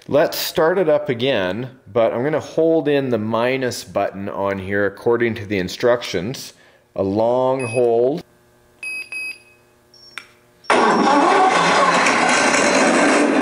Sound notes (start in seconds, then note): 7.6 beeping; 10.7 engine starting